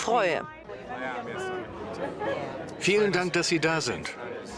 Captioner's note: speaking softly